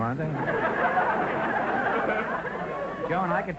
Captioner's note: audience laughter